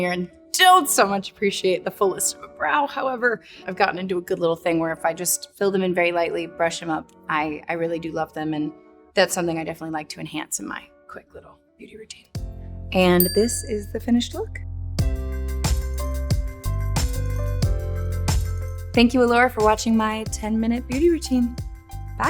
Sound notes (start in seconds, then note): 13.1 bell dings; 15.0 bright music